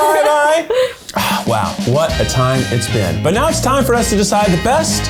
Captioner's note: sighs